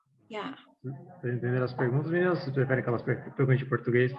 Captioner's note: non-english speech